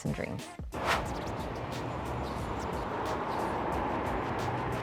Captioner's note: cars passing